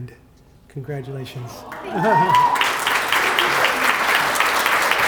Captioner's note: applause